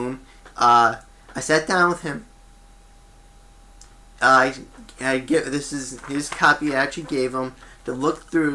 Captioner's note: papers move